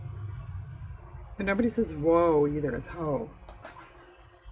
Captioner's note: laughs